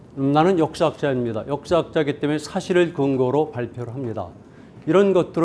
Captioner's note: speaking in Korean